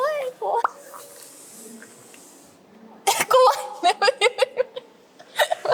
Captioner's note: laughs